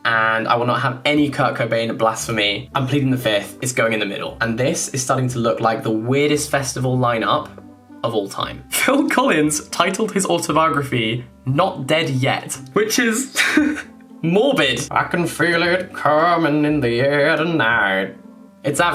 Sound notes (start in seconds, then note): 13.3 laughing